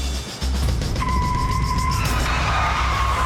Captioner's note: tires squealing